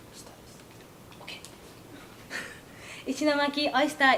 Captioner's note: laughs